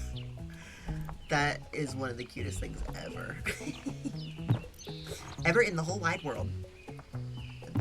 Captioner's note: giggles